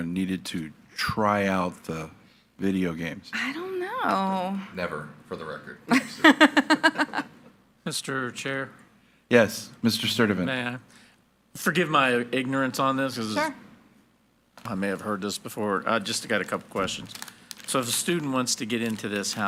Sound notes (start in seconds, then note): 5.9 speaks faintly; 5.9 laughing